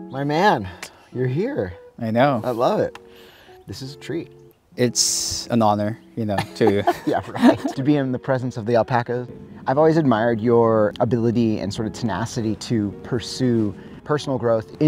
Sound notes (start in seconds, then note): 6.3 both laughing